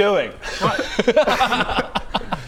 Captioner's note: concerned giggles